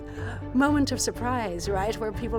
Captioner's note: gasp